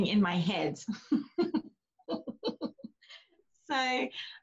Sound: laughs

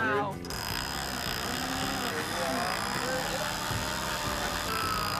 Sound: whirring

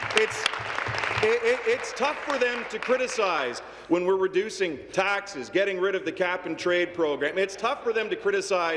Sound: applause

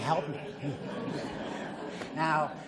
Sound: audience laughs

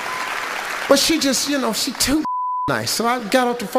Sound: beeps

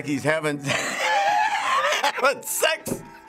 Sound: cracks up

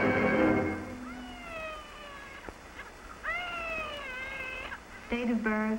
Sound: dramatic music; baby crying

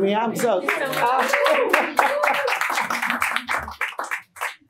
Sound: audience clapping

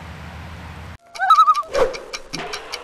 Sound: loon call

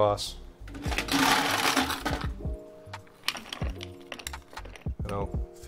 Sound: ice cubes rattling

